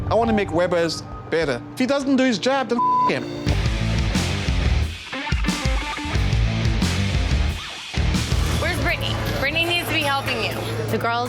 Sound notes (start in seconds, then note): 2.8 beep; 2.8 rock music